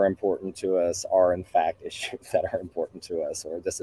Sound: chuckling

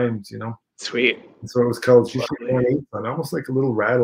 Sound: speaking Ojibwe 56:39

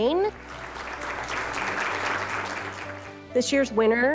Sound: applause

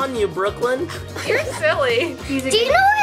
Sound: both laugh

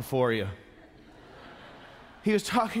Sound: congregation chuckles

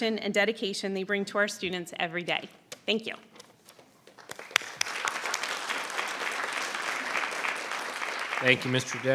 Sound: applause

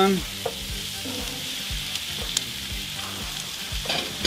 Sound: pan simmering

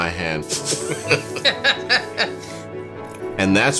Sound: laughter

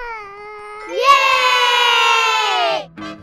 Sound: cheering

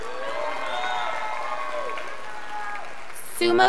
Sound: scholars applauding

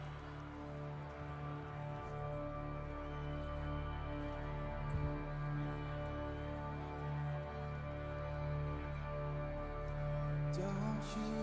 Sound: applause

